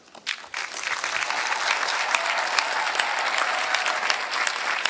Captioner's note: applause